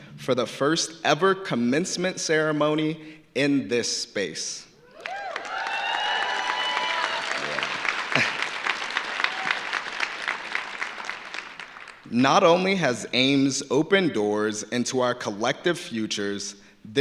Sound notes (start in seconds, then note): 4.9 audience cheering; 4.9 audience applauding